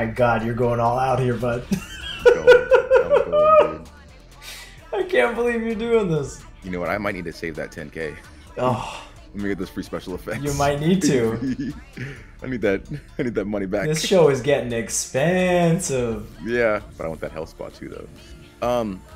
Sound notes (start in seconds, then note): 1.6 laugh; 10.2 laugh